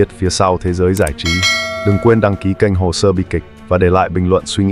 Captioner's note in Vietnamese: chuông